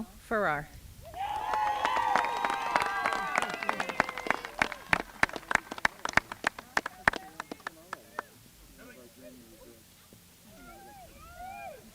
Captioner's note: applause